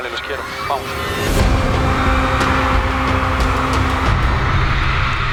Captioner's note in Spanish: público aclama